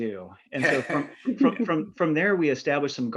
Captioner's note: presenters chuckling